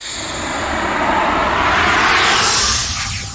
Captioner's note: digital whoosh